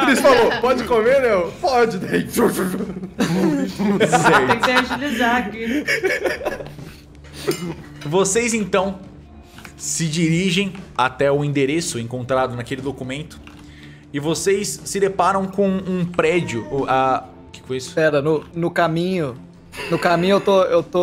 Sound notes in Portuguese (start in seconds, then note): 2.3 barulho de comendo rápido; 2.6 risada